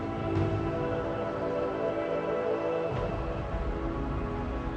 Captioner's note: dramatic music; birds chirp